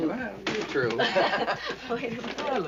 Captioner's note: laughter